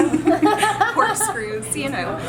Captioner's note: laughter